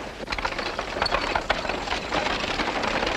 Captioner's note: horses trotting